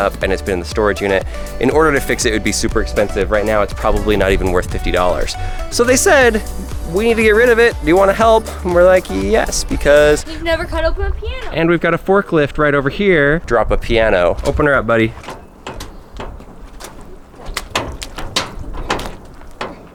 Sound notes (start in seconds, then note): 16.0 door jamming